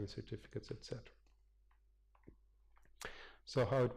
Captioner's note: pause